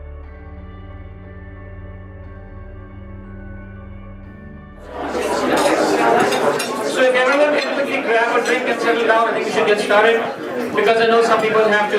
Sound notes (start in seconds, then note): 4.8 crowd chattering